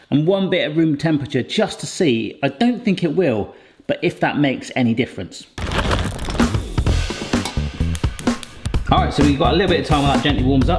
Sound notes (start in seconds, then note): 5.6 bag rustles; 6.3 upbeat music